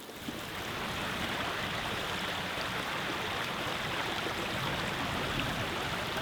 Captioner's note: sound of running water